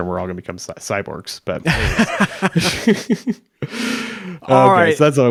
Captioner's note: both laughs